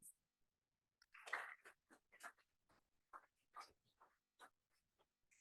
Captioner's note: applause